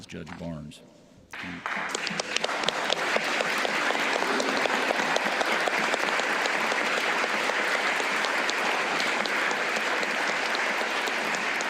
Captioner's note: applause